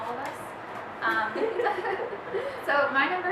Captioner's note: laughing